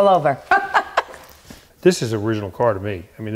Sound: laughing

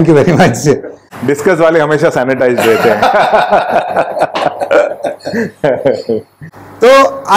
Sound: laughs

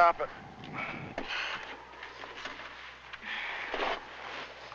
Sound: wind blowing

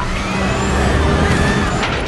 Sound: scream

